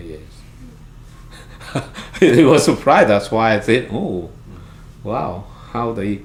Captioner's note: laughs